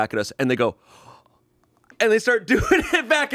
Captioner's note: gasps